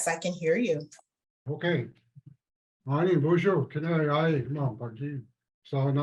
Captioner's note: speaks in native language